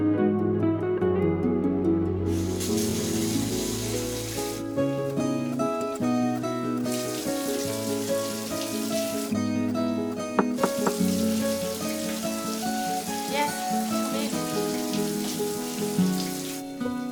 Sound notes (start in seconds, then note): 10.4 knocking